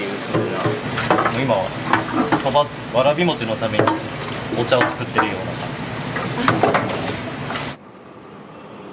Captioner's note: laughs